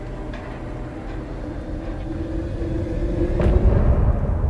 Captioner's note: thunder rumbling